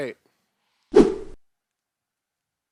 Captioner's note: air swooshing